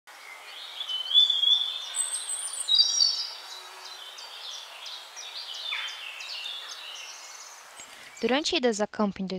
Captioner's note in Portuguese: Sons de pássaros cantando